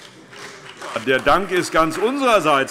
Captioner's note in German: Beifall SPD